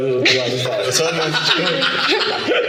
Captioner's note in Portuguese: risos